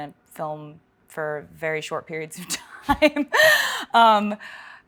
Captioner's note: laughs